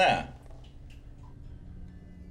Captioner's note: water dripping; ominous music plays